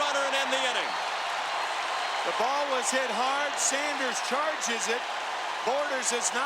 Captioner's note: cheering and Applause